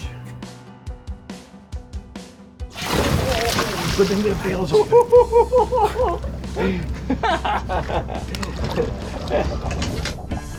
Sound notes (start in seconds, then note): 2.5 water splashes; 4.2 anglers chattering and laughing